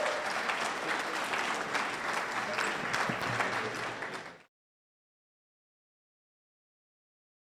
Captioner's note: audience applauds